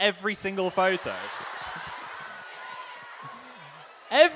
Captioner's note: audience laughing